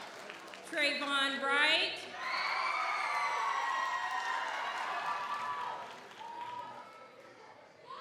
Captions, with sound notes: Trevon Wright. (audience applauds) (audience cheers)